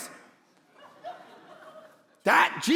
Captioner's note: congregation laughing